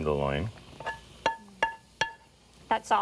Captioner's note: spoon taps